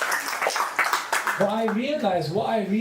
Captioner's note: applause